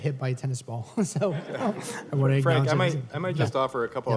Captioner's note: laughter